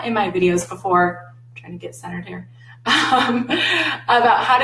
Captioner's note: laughs